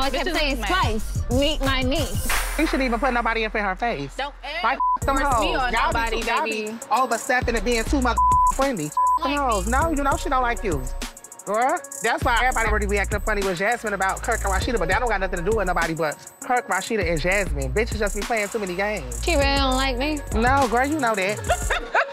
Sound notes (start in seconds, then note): 4.7 beep; 8.8 beep; 21.3 laughing